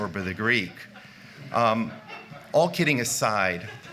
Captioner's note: laughter